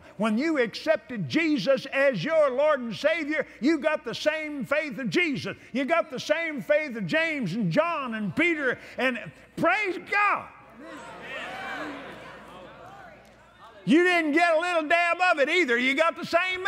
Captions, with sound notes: faithful. When you accepted Jesus as your Lord and Savior, you got the same faith of Jesus. You got the same faith of James and John and Peter and--praise God! (Praise & Applause) You didn't get a little dab of it, either. You got the same